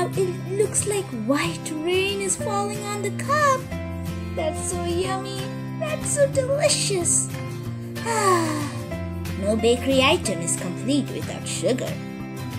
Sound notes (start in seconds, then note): 8.0 sighs happily